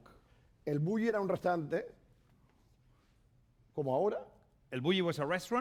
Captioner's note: speaking spanish